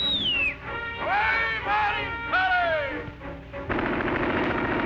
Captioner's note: loud whistle; dramatic music; men shouting; gunfire